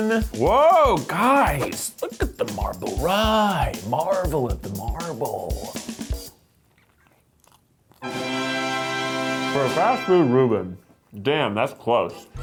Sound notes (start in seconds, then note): 6.4 crunching; 8.0 fanfare